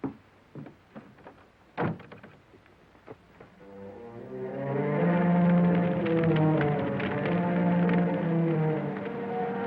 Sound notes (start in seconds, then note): 3.6 suspenseful music; 4.6 fire crackling